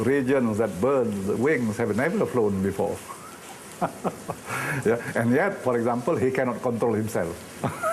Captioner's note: laughing; laughing